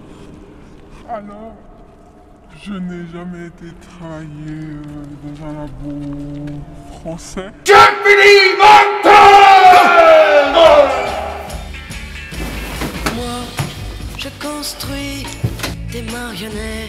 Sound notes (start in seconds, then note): 7.2 shouting